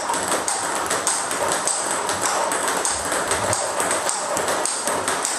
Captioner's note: ball ping pong hitting continues